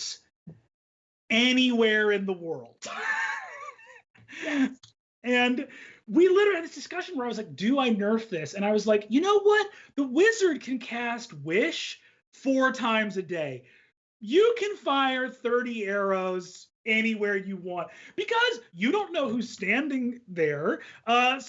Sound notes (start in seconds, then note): 2.8 laughs